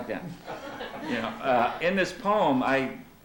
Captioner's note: laughter